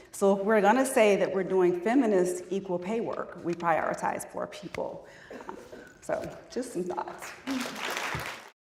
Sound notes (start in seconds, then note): 7.2 applause